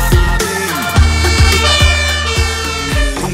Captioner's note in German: Sirene